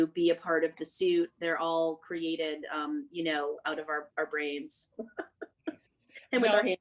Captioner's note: laughing